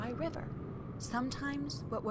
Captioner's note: wind blowing